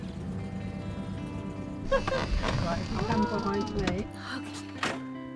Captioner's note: laughs